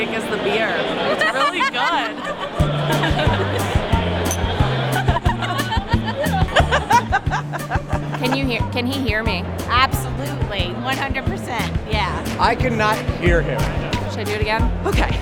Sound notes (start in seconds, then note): 2.1 laughing